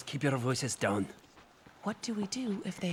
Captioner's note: whispers